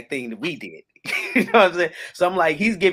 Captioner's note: laughs